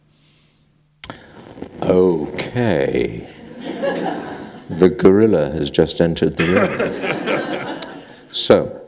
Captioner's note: laughter